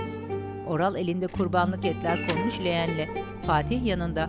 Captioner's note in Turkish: Kapı açılma sesi